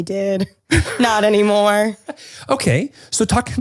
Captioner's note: laughs